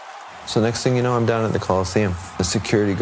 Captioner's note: crowd cheering